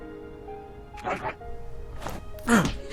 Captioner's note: alien grumbles